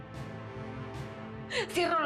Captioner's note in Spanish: Sollozos